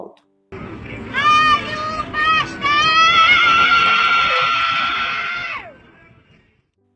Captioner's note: shrill scream